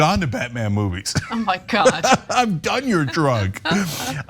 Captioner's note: laugh